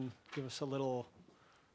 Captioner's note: none